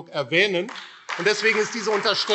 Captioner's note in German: Beifall AfD